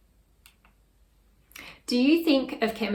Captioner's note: mouse clicks